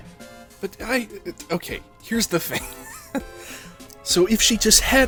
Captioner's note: laughter